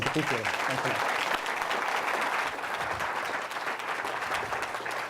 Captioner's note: audience applauds